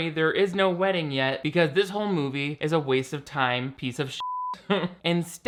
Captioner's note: beep